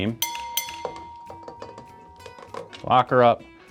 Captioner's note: bell dings